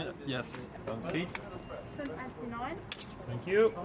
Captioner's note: production crew talking